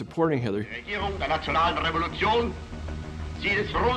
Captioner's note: Hitler speaking German